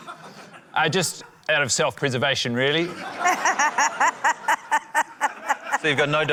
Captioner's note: laughter